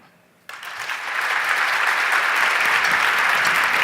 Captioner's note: audience clapping